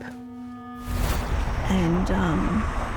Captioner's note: lightning strikes; air blows